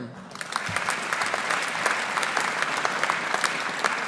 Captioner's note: audience applauding